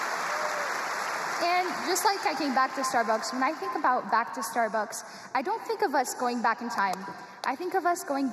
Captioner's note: cheers and applause